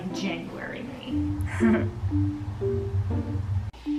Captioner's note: laughs in suffering